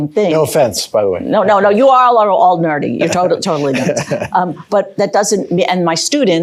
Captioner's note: laughter